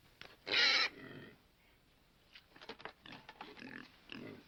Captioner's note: pig squeals